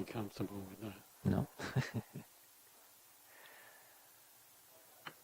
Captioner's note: laughs